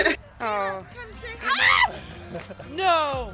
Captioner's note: screams